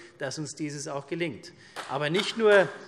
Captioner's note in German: Beifall CDU